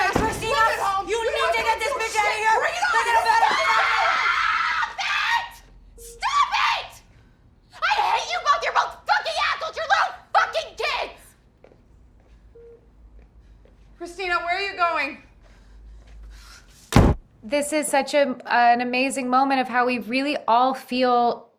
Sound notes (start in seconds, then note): 3.9 shouting; 12.5 medical device beeps; 15.2 breathes heavily; 16.9 door slams